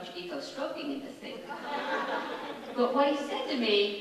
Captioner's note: laughing